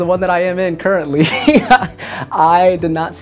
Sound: laughs

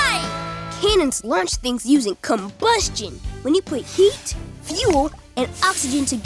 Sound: none

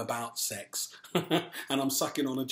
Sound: laughs

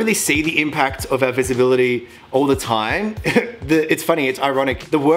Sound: laughs

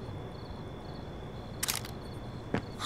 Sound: clicking

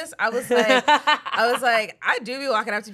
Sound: laughs

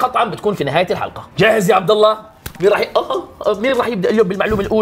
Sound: groans

